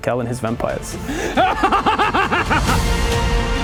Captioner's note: more maniacal cackling